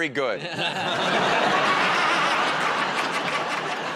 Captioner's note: laughter